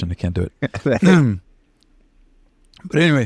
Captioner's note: laughter